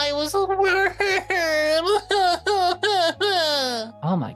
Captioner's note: crying